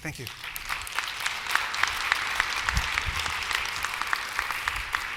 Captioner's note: applause